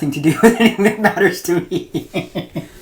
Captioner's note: laughs